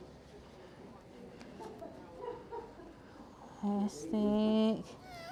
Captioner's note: background laughing